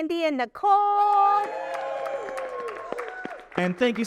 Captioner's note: audience applauding and cheering